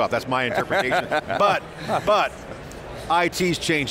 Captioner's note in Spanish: risas